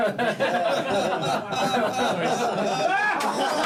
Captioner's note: crew laughing